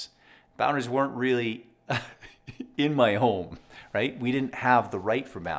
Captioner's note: laughs